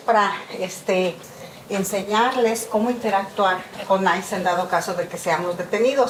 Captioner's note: continues speaking in Spanish